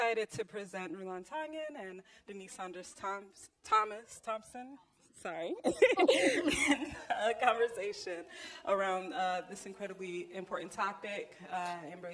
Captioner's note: female speaker and chuckle simultaneously; first female speaker, chuckling